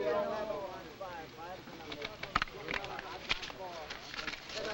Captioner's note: players chattering